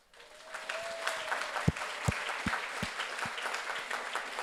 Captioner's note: audience applauds